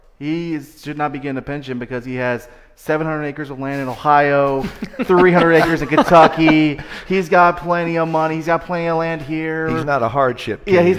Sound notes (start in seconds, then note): 4.4 laughing